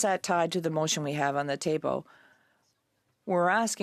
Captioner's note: speaking in French